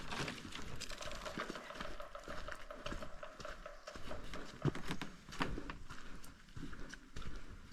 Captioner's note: woodpecker